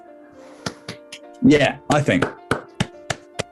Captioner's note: applauding